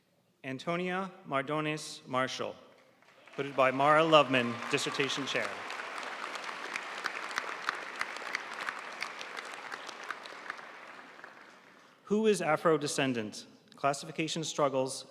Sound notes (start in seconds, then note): 6.5 audience applauding